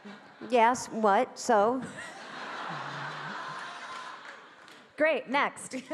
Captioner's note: audience laughing